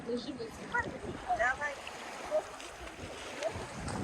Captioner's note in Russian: Разговоры отдыхающих